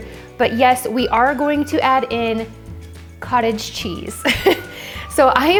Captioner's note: laughs